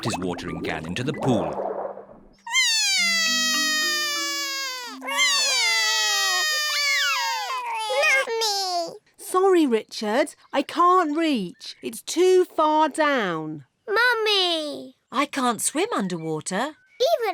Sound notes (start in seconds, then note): 2.4 both crying